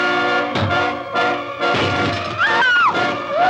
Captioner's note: rock bangs against window. glass shatters